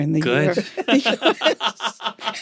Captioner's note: laughter